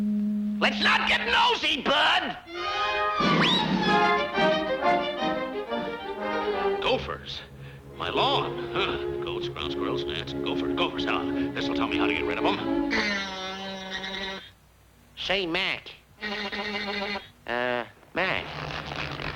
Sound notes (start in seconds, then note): 3.4 dramatic music; 13.4 teeth buzzing; 16.4 teeth buzzing